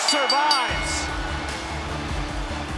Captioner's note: bell rings